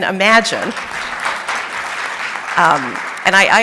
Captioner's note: audience applauding